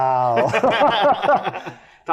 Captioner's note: laughter